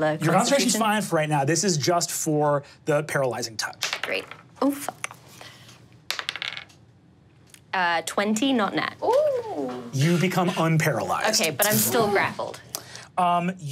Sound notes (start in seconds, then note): 6.1 die tapping table; 9.0 cheers